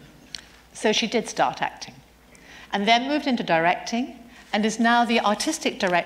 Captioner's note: none